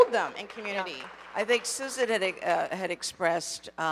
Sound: audience applauding

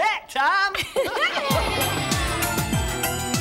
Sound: everyone laughs; cheerful music

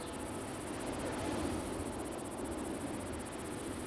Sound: cricket chirps

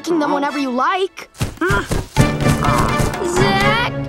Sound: stomping

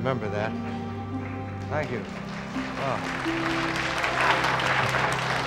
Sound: audience applauds

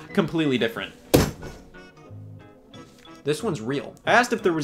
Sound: hammer thudding

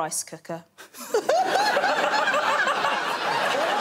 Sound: laughter

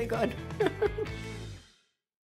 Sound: laughs

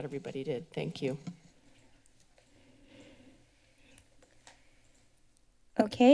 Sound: pause

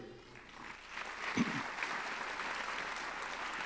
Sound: applause

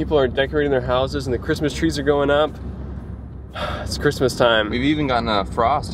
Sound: sigh

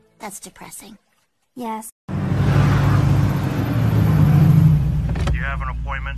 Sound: car driving

